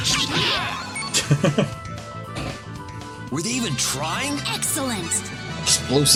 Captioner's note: laughs